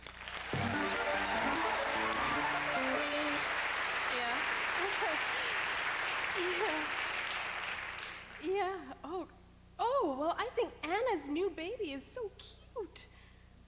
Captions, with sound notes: [upbeat background music] [applause] ...YEAH, HA. YEAH. YEAH, OH, OH-- WELL, I THINK ANNA'S NEW BABY IS SO CUTE. THEY'RE SO CUTE